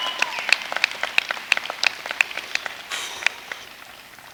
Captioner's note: applause